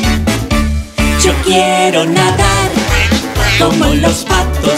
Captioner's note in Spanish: Música alegre; Sonido de pato